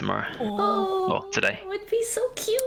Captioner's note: all awwwww